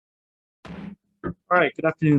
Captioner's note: gavel strikes